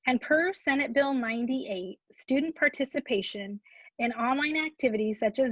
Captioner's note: none